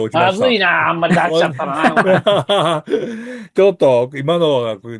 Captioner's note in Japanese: 笑い